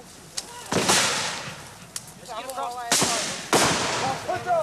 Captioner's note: soft chattering